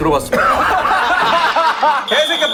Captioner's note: bursting into laughter